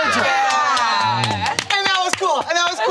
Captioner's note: group applauding